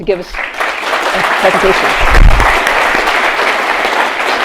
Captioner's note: attendees applauding